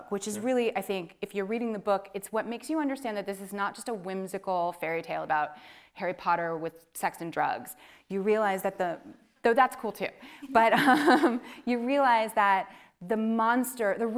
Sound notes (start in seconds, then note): 10.7 chuckles